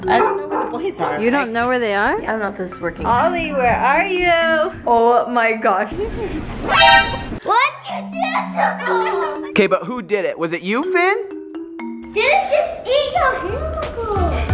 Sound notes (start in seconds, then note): 6.0 zinging; 13.2 pop music